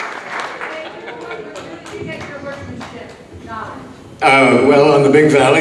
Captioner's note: distant speaking